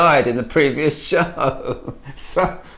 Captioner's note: laughing